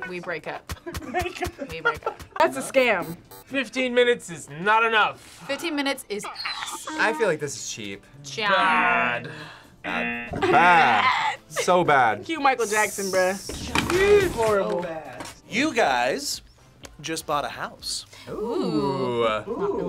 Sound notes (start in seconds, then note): 0.8 laughs; 3.0 buzzer rings; 10.1 buzzer rings